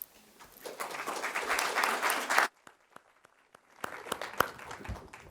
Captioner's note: applause